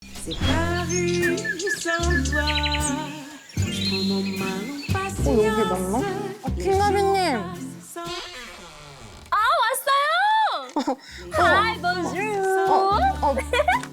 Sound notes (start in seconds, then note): 8.1 umbrella flicking sound effect